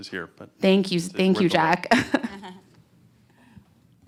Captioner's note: laughter